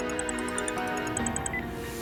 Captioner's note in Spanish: Suena el celular